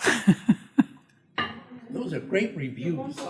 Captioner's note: chuckles